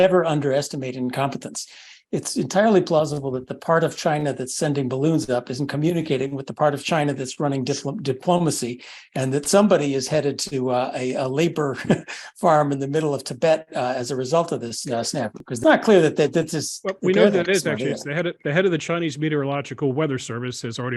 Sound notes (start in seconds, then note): 11.7 laugh